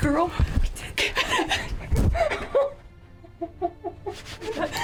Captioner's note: both laughing